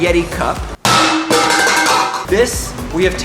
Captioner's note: cup clatters